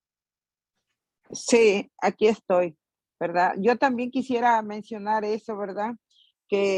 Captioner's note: in Spanish